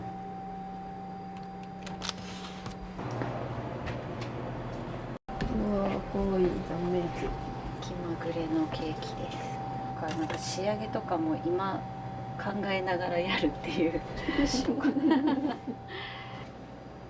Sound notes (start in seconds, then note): 14.2 laughter